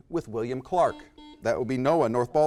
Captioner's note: buzzer